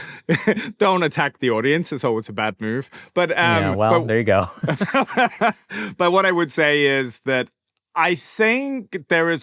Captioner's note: laughter